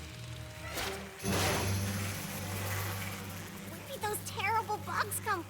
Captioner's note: buzzing continues